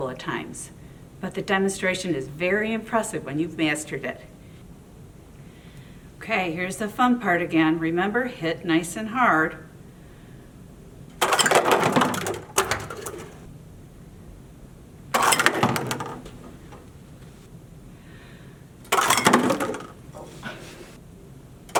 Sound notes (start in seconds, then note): 11.2 clinking and falling; 15.1 clinking and falling; 18.9 clinking and falling